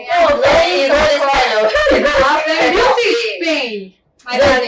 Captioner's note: laughter